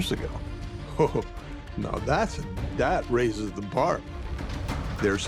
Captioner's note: chuckles